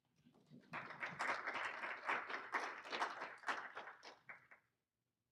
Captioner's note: applauding